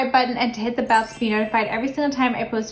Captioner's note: bell chiming